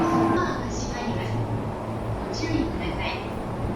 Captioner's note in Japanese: 駅の放送